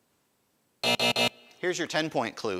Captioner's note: buzzer buzzing